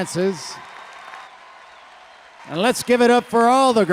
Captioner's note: audience cheering and applauding